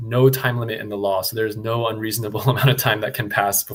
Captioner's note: chuckles